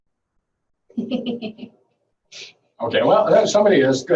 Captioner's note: laughing